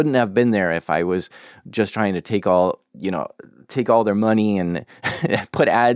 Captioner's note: laughs